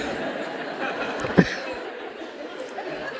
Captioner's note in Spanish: risas